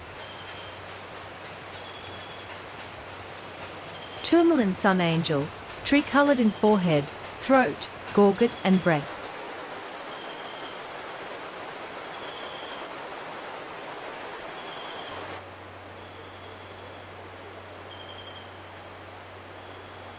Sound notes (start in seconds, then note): 0.2 birds singing and chirping; 9.9 birds chirping and singing; 10.3 strong river flowing